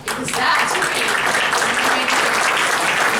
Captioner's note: applause